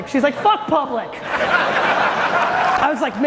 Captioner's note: audience laughing loudly